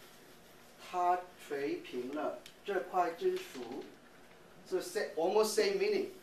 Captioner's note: speaking in chinese